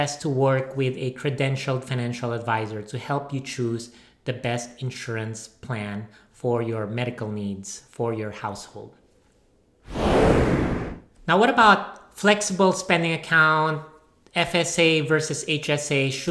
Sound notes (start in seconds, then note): 9.8 whooshing sound